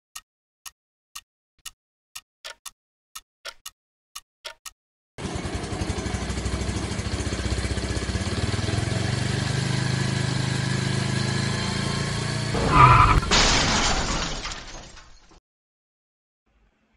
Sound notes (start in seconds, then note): 12.5 bike Crashes